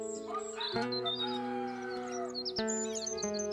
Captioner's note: birds Chirping; rooster Crowing